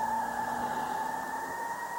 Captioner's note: tires screech